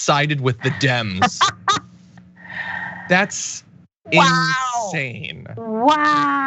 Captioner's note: laugh